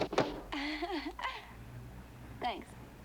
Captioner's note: laughing